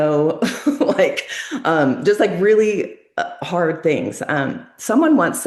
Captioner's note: laughs